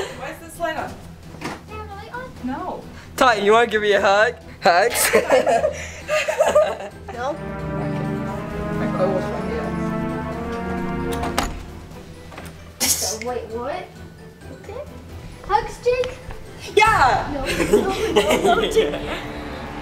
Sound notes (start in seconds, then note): 5.0 laughs